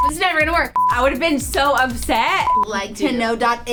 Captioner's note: beep; beep